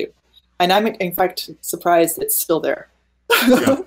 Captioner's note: laughing